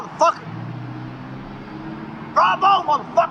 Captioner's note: city noises